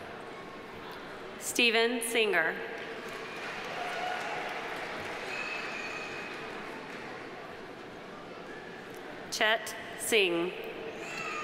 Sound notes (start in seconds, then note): 2.8 audience applauding